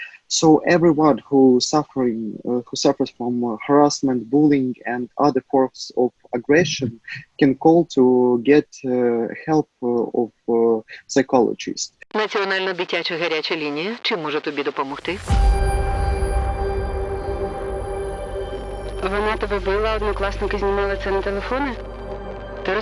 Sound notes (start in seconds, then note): 12.2 speaking foreign language; 15.2 suspenseful music; 19.1 speaking foreign language